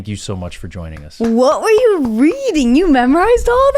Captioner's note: clapping